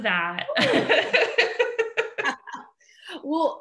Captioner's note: both laughing